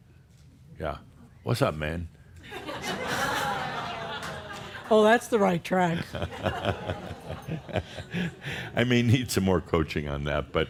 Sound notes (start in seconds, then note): 2.4 laughter; 6.0 more chuckles